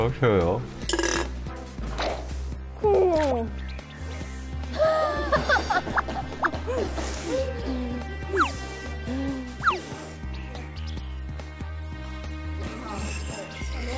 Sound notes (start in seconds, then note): 2.2 is drooling